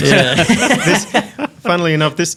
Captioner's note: everybody laughing